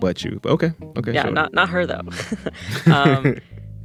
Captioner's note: laughter